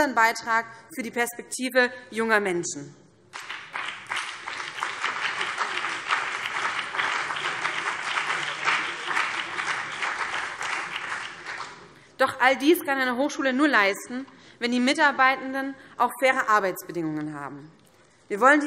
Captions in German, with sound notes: Beitrag für die Perspektive junger Menschen. [Beifall BÜNDNIS 90/DIE GRÜNEN und vereinzelt CDU] Doch all dies kann eine Hochschule nur leisten, wenn die Mitarbeitenden auch faire Arbeitsbedingungen haben.